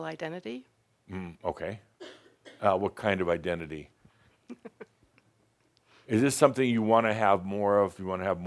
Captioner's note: she chuckles